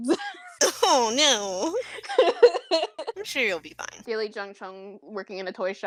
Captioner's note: crying laughter